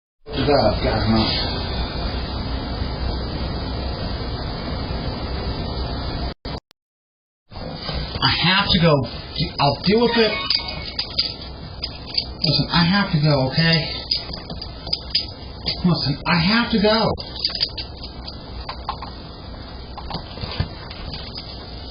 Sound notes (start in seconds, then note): 0.2 Ava stammers; 10.0 Lyft sound plays on phone